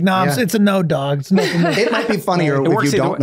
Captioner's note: laughs